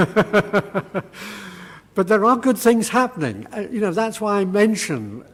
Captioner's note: laugh